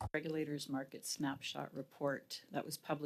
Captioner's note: speaking French